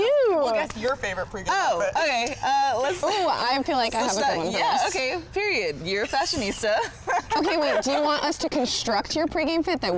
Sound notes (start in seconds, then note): 6.8 laughs